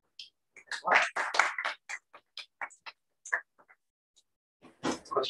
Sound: applause

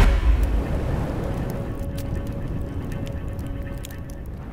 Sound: fire crackling

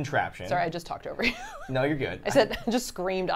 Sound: laughs

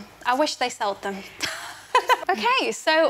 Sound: laughs

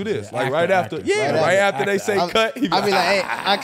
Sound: laughing

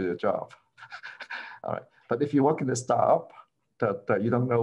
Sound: laughter

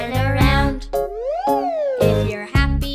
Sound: whistling up and down scale

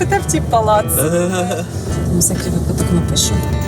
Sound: is laughing

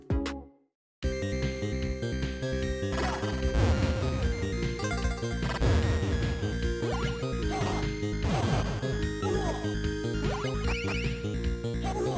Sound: game sounds

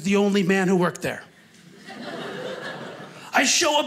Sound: audience laughing

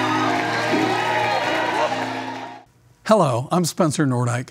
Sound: cheering

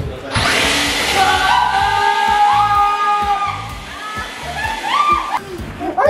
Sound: leaf blower whirs; yelling

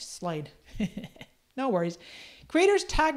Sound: chuckles

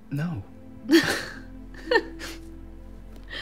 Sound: they both chuckle

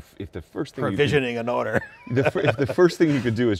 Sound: laughing

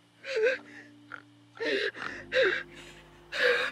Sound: boy grunting

